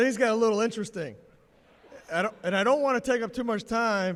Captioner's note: laughter